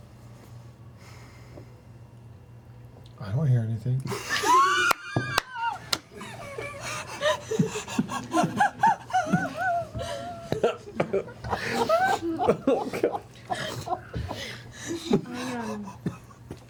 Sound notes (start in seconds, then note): 4.1 laughter